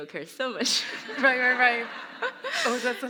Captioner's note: laughter